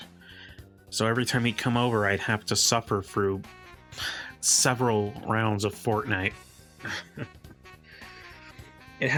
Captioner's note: groan